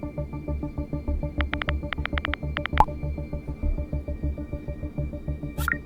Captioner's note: typing sound